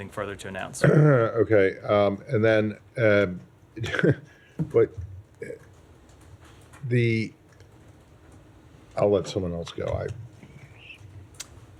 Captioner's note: laughter